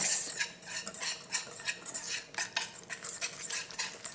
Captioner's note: whisk scraping